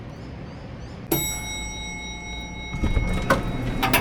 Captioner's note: elevator dinging